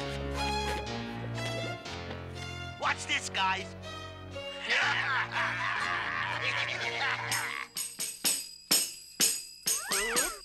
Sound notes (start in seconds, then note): 4.7 all laughing